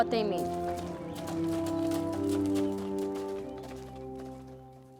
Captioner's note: horse hooves clopping